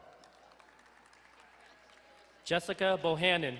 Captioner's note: crowd cheering and applauding